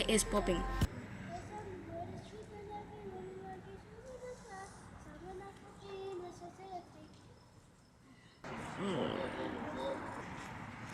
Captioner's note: people passing by the sidewalk